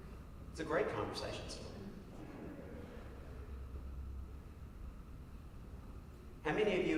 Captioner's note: laughs